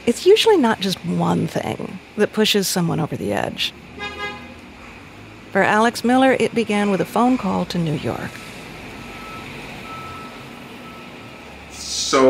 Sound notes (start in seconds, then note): 3.9 horn beeping